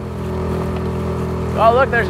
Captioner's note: engine rumbling